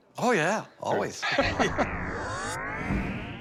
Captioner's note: chuckles